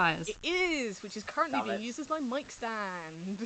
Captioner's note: laughing